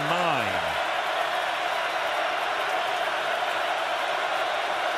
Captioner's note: crowd cheering